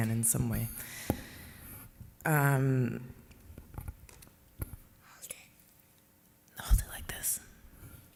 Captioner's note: whispers